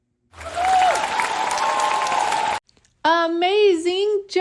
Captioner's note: audience cheering